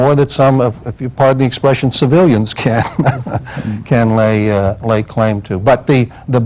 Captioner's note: laughs